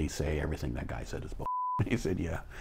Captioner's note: beep